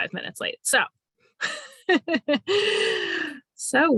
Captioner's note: laughing